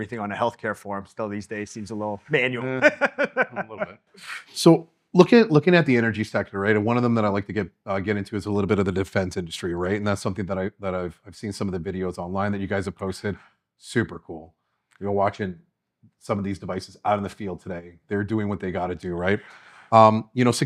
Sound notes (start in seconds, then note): 2.4 laughing